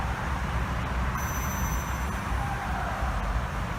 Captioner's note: ding